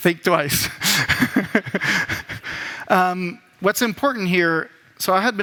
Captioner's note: laughs